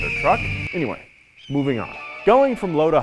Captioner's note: eagle screeches